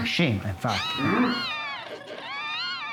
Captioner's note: mouse squeaking